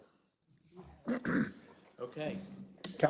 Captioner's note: cough